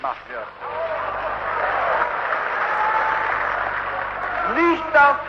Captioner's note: applause